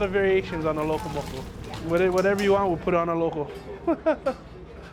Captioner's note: laughs